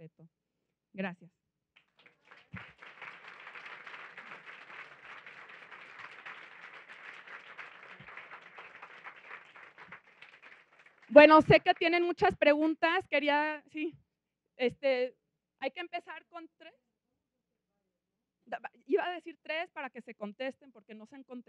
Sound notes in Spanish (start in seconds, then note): 1.8 Aplausos